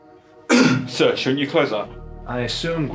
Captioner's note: coughs